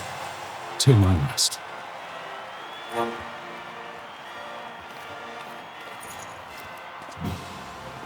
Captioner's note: crowd cheering